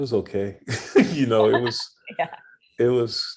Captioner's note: laughing